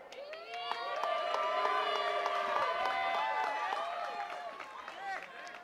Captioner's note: attendees cheering and clapping